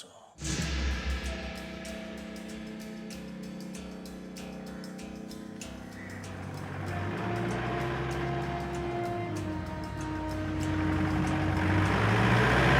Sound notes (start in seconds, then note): 0.2 dramatic music; 5.7 car engine rumbling